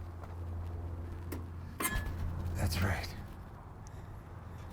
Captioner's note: wheelbarrow squeaks